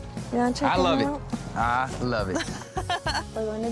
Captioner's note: laughs